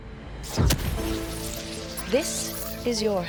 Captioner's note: zapping